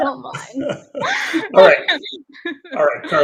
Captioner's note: laughs